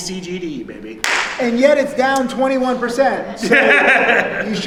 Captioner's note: laughing